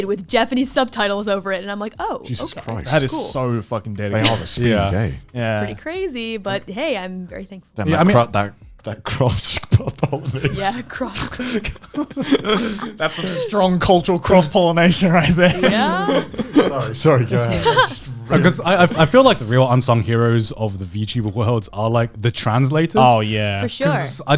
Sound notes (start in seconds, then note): 9.6 laughs